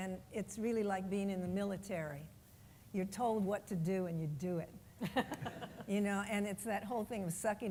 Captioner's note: laughs